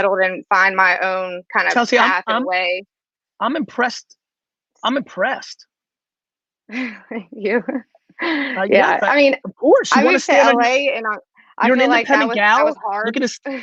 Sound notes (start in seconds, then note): 7.4 laughing